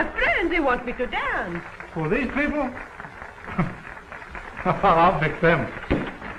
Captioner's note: chuckles